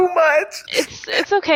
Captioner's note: Dell cries